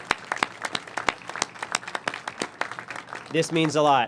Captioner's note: applause